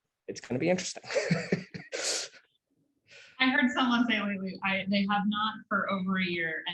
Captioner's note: laugh